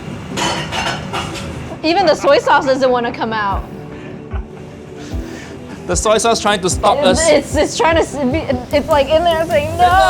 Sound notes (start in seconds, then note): 0.2 dishes clanking